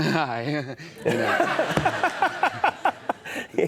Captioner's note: audience laughs